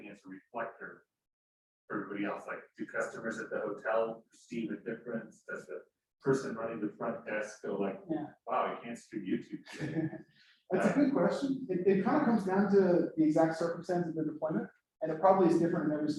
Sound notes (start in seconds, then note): 8.5 laughs